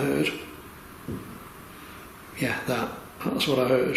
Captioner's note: thud